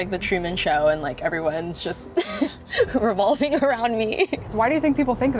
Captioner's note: giggles